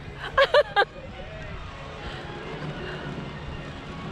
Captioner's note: laughter